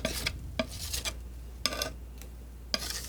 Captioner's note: scratching; scratching